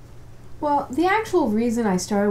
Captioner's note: none